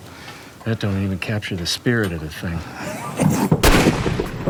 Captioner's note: gunshots